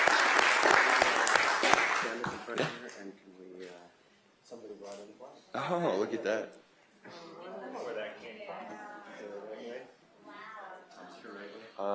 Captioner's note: applause